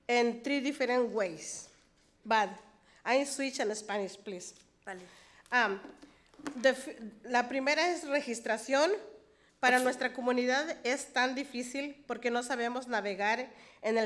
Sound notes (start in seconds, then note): 6.6 speaks foreign language